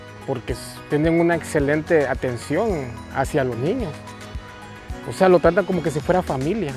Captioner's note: speaking in Spanish